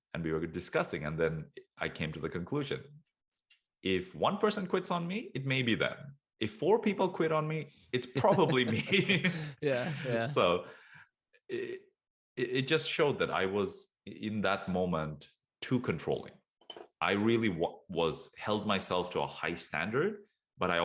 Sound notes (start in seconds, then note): 8.0 both laugh